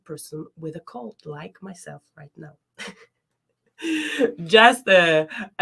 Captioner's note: chuckles